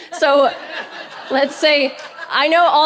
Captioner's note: audience laughing